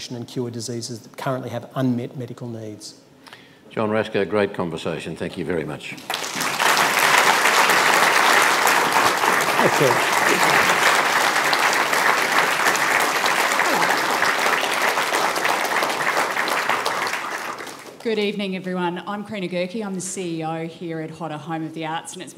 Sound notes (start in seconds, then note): 7.6 applause